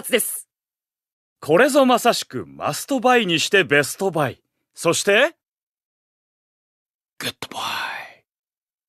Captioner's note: whispering